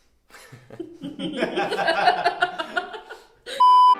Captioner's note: laughing